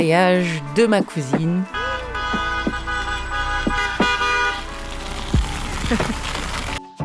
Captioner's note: honks